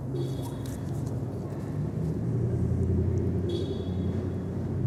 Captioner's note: car horn honking